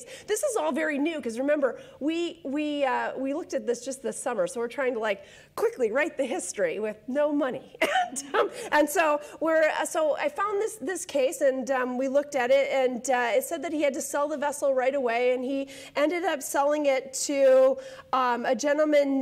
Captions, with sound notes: This is all very new, because remember, we looked at this just this summer, so we're trying to quickly write the history with no money. (laughs) I found this case and we looked at it. It said that he had to sell the vessel right away, and he ended up selling it to a gentleman